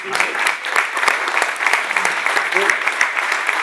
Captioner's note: applause